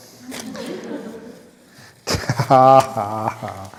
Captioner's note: laughs